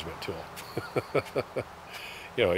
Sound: laughs

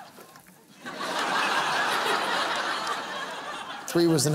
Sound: laughter

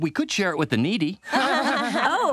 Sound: laughing

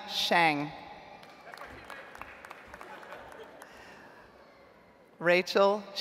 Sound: audience applauds

